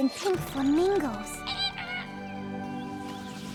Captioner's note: squawks